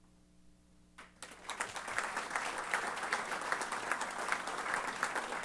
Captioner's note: applause